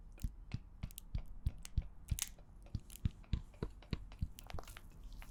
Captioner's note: wet cracking sounds